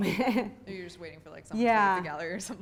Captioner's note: voiceover